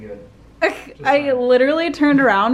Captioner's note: laughs